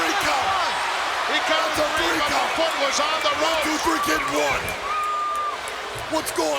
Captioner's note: crowd cheering; overlapping chatter